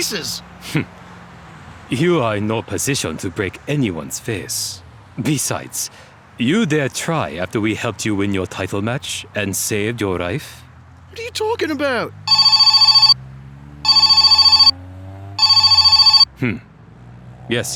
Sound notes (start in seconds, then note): 13.8 phone rings